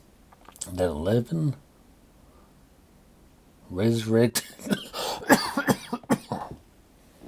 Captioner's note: coughing